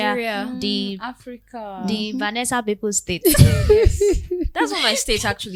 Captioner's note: laughter